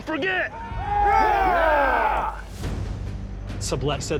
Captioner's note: men yell